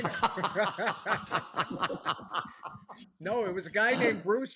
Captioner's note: laughter